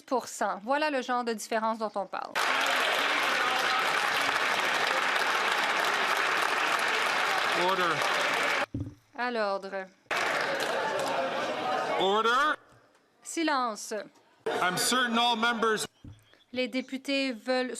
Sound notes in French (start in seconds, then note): 10.1 applaudissements; 11.8 voix de l'interprète